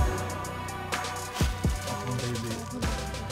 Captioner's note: voices in the background